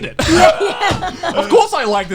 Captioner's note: all laughing